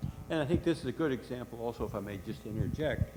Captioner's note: voiceover